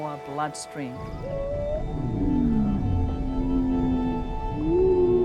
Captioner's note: whale whistles and groans